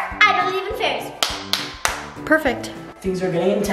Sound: claps

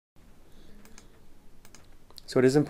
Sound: mouse clicking

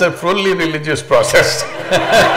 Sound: Sadhguru laughs; laughter

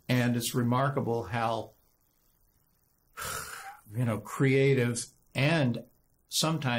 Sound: sighs deeply

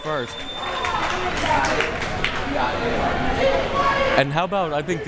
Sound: crowd members clapping

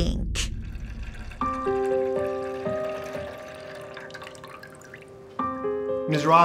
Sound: pee gushing; gentle music

